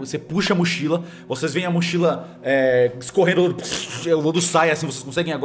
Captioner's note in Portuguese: puff